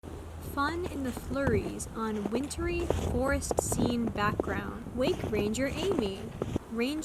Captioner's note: crunching of snow